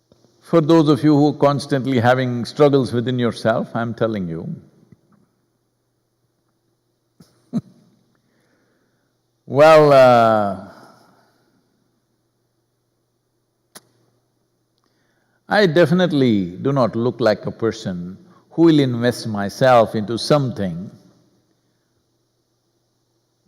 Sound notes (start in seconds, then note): 7.2 laughs